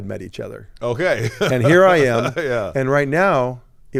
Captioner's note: laughs